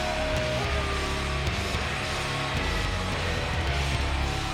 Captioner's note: crowd boos